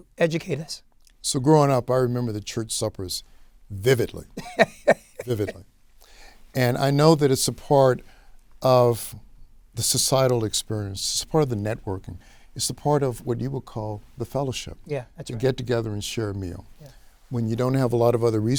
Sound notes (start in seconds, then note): 4.4 laughs